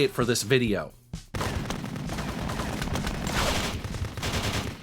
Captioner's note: rifles firing